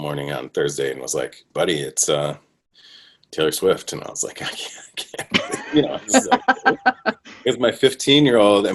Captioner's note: laughter